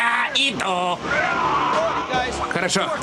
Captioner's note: growling